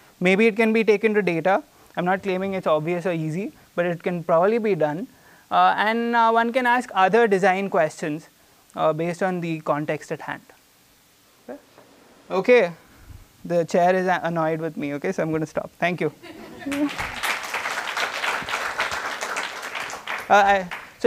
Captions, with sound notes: Maybe it can be taken to data. I'm not claiming it's obvious or easy, but it can probably be done. And one can ask other design questions based on the context at hand. Okay? Okay. The chair is annoyed with me. Okay? So I'm going to stop. Thank you. Mm. (applause)